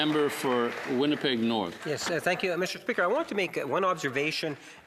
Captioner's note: applause